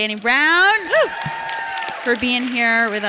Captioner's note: audience cheering